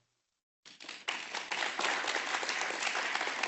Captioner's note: audience applauding